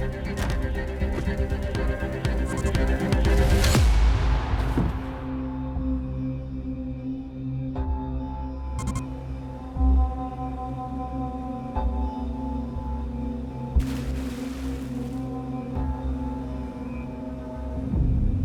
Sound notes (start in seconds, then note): 13.7 water splashes